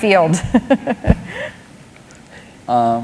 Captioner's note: laughter